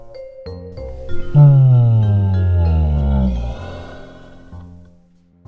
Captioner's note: yawn